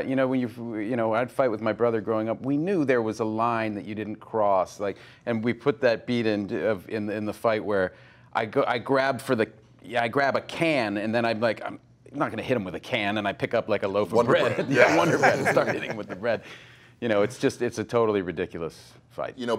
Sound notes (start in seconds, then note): 14.3 laughs